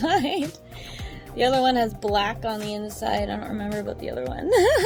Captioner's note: giggles